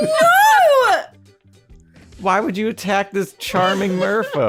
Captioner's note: laughing